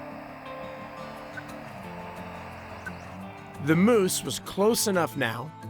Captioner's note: slow beep